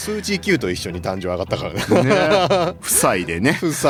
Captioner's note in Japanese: 笑い